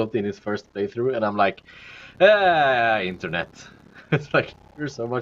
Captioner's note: groaning